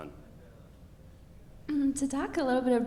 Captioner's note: speaking faintly